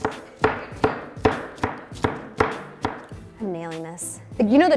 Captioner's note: chopping drowns out speaker